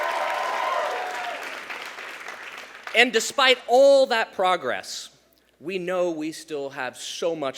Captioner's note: cheers